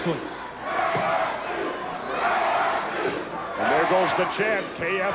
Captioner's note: crowd chanting